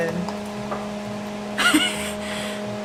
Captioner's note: laughs